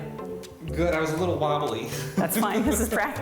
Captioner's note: chuckles